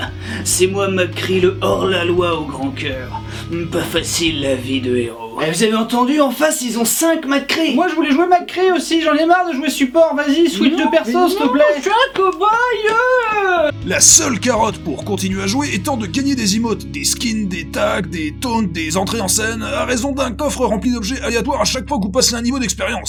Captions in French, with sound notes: C'est moi McCree, le hors-la-loi au grand cœur, pas facile la vie de héros. [Voix de Cow-Boy 2] Eh ! Vous avez entendu ? En face ils ont cinq McCree ! [Voix d'enfant] Moi je voulais jouer McCree aussi, j'en ai marre de jouer support ! Vas-y, switch de personnage s'te plaît !! -Mais non, mais non J'veux jouer le Cow-Boyeeuuh ! La seule carotte pour continuer à jouer étant de gagner des émotes, des skins, des tags, des taunts, des entrées en scène à raison d'un coffre rempli d'objets aléatoires à chaque fois que vous passerez un niveau d’expérience.